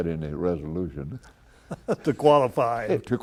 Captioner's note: laughter